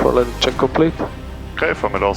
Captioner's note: speaking in foreign language